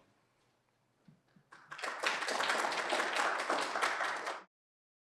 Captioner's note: applause